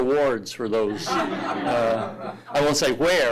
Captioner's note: audience laughing